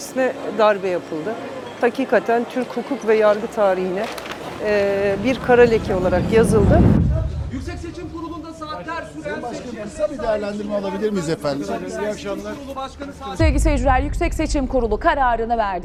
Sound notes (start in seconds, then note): 7.0 reporter speaking